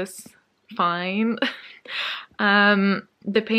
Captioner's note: laughs